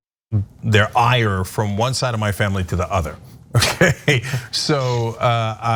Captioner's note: laugh